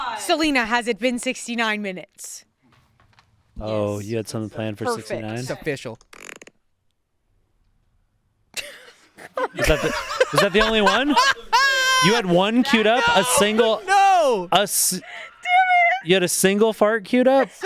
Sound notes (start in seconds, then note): 9.1 laughs